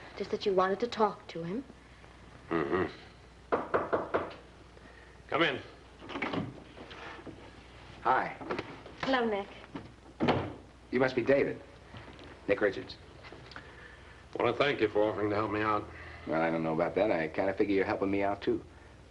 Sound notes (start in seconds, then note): 3.5 knocking